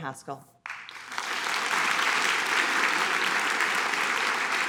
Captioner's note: audience applauding